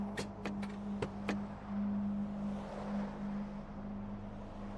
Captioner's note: car turns off, doors open